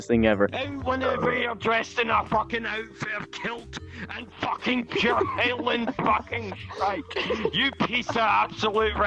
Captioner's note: drunken Scottish mumbling